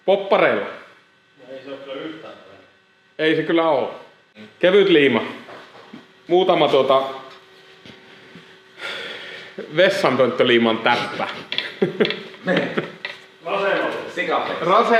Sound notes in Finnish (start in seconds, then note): 8.8 huokaa